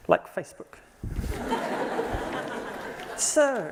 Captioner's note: laughter